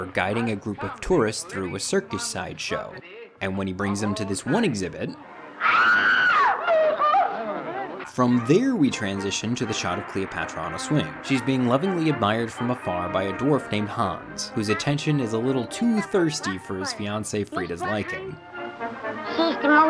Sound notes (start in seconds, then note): 5.6 woman screaming